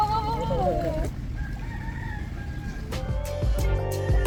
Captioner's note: rooster crows